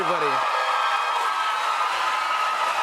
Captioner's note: cheers and applause